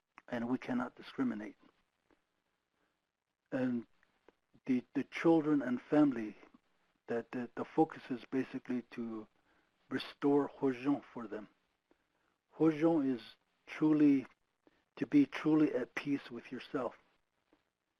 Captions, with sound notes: and we cannot discriminate. And the children and family, that the focus is basically to restore (speaking foreign language) for them. (speaking foreign language) is truly, to be truly at peace with yourself,